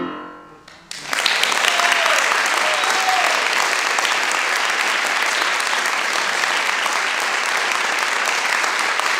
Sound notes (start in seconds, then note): 0.8 cheering, applause; 8.0 applause